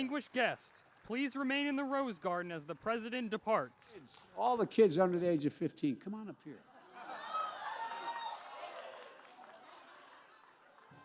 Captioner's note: cheers and applause